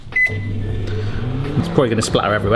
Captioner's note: Mike beeps and whirs